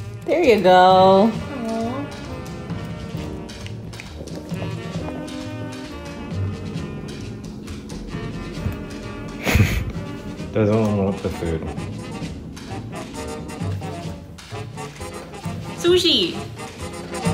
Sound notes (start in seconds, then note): 9.3 laughs